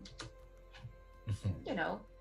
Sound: laugh

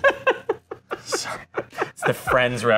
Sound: laughing

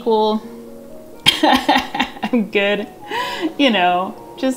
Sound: laughs

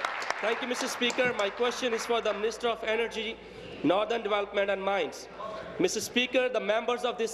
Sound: cheers; applause

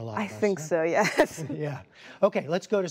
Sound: laughter

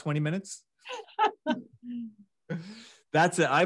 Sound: laughs

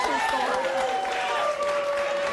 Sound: audience cheers and claps

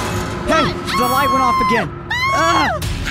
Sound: screams

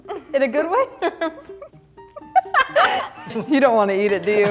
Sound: laughing

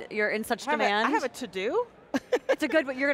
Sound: laughter

